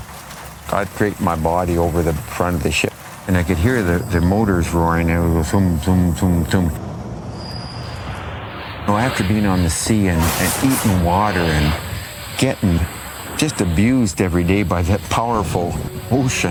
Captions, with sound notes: I’d drape my body over the front of the ship, And I could hear that the motor roaring, they’d go Thung, thung, thung, thung. Well after being on the sea and (wave crash) an eating water, and getting just abused every day by that powerful ocean, (whipping wind, wave sounds)